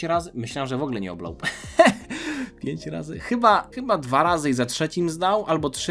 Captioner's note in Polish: śmiech